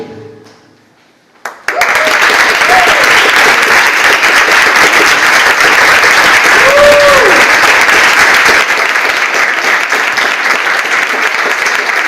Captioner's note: audience applauds